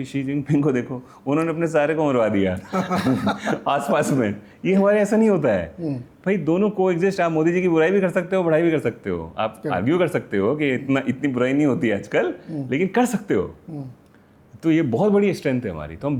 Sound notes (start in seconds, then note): 2.7 laughter; 5.2 sound of clearing throat